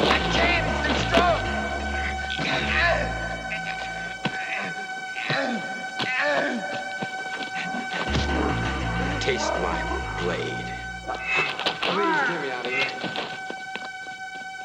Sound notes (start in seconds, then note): 2.4 grunting